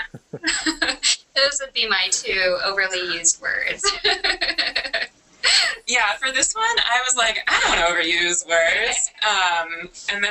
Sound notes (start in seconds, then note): 5.2 laughs